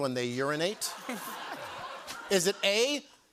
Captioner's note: laughter